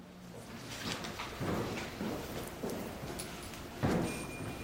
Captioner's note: footsteps thumping